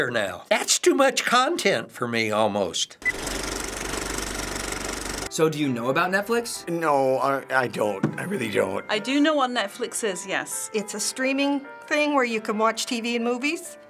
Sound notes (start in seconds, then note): 3.1 movie reel clicks